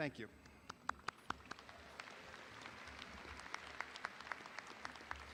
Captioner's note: audience applauding